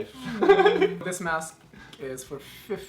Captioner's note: laughing